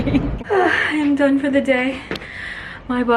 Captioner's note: exhales